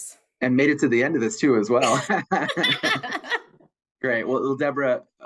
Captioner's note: laughs